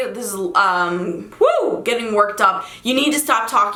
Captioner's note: screams